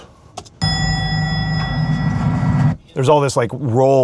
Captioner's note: bell dings